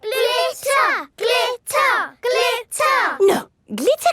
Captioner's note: chanting